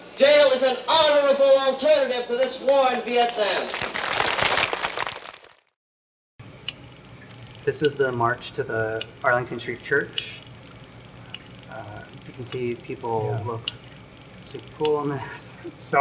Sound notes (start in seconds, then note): 3.1 applause